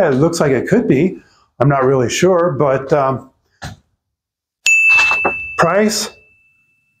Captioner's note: bell chimes